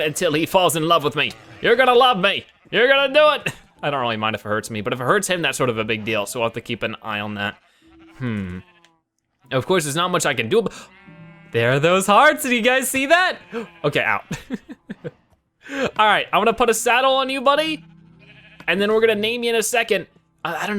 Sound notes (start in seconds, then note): 10.6 gasps; 15.4 laughs; 15.6 gasps